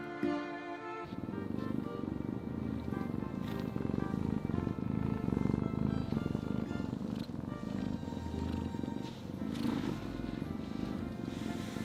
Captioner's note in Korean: 폭풍 그르릉 양념이